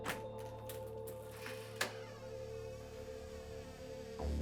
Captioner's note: door squeaking